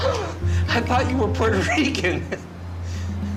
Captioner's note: laughs